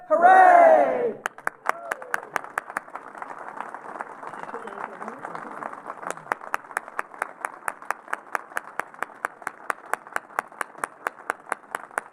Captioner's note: applause